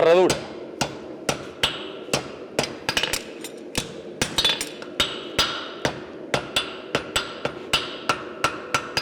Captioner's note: sharp metallic hammering